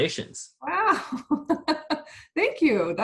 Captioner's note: laughs